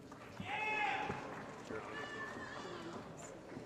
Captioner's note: applause & Cheering